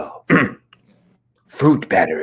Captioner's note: Dominic's throat clearing